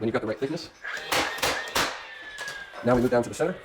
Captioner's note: nail gun shooting